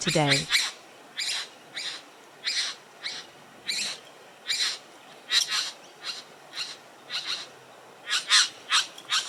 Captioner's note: birds sounds and display calls